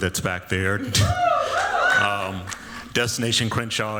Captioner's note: cheering